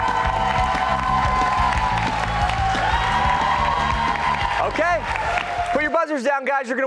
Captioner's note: cheers and applause